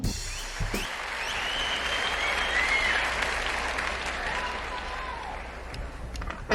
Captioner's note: sound of applause starting